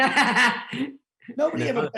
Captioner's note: laughing